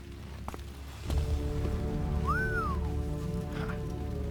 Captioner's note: whistling